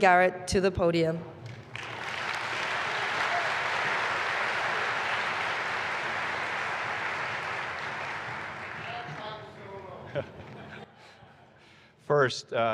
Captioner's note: applause